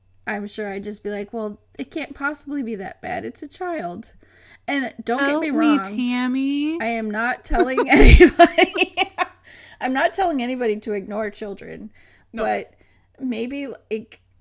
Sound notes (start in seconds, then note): 4.8 creepy voice; 13.5 cough